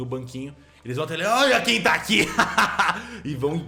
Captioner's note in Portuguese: risos